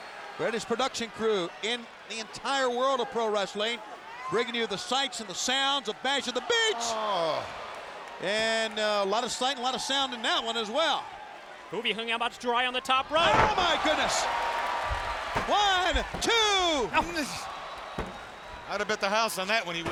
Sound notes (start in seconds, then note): 14.4 audience cheers